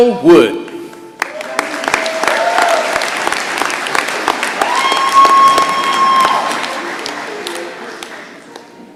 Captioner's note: applause and cheering